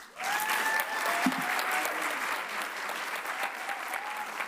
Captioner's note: audience applauds